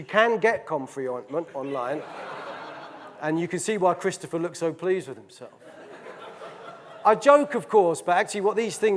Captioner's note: audience laughing